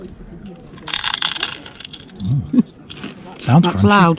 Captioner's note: crunching sound